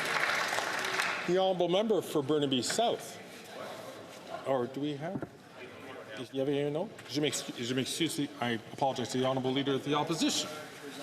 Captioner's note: some Applause